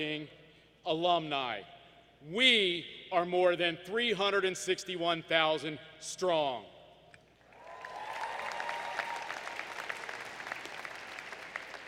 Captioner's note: applause